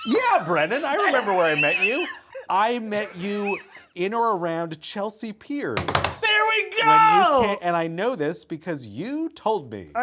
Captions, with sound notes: - Yeah, Brennan, I remember where I met you. I met you in or around Chelsea Piers. (palms thumping) - There we go! - And I know this because you told me.